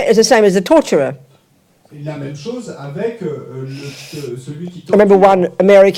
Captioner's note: French